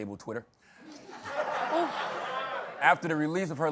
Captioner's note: laughter